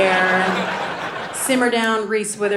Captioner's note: audience laughing